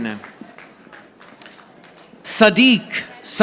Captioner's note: audience applauding